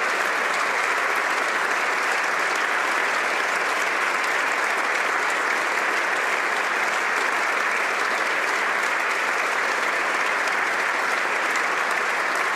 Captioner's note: applause